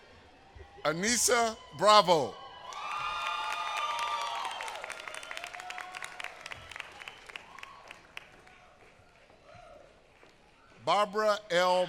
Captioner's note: applause